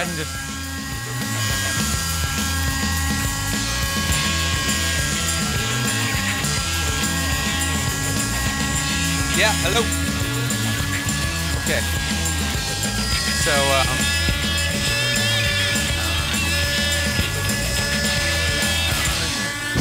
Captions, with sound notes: Go ahead and just. (helicopter whirring) (upbeat rock music) (helicopter whirring) Yeah, hello? Okay, so. (helicopter whirring) (upbeat rock music)